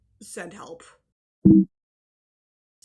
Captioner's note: Mac error sound